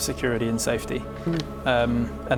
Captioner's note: humbled hmm